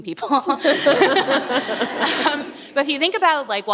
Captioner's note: audience laughs